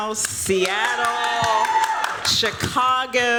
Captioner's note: cheering